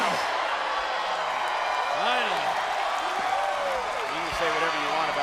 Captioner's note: audience cheering